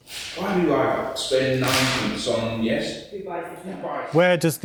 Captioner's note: rehearsal room chat